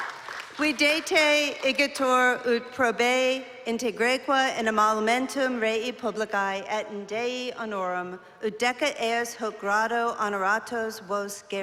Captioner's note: non-english speech